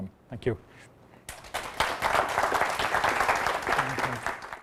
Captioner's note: applause